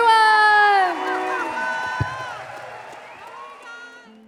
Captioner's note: audience cheering